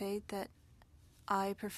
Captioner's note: speaking French